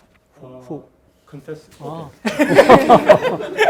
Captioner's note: speaking in Korean; student speaking Korean; students and professors laughing